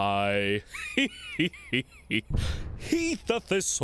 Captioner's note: laughing